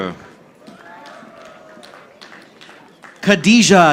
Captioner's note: audience applauding